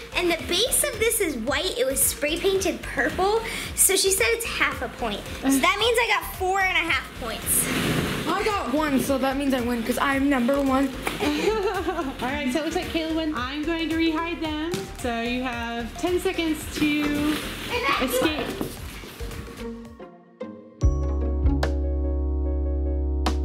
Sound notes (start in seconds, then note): 11.2 laughing; 20.0 soft electronic music